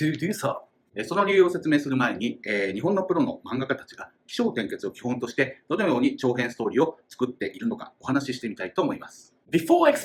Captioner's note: speaking Japanese